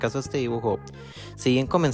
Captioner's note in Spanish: respira